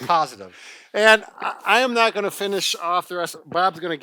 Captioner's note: laughs